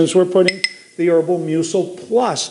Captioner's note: clinking